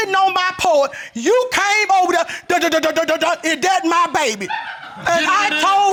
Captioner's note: mimics stuttering